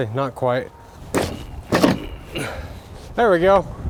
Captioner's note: metal scraping; speaker grunts